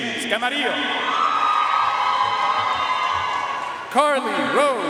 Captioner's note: audience cheering and applauding